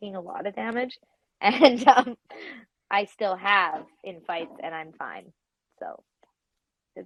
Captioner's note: laughs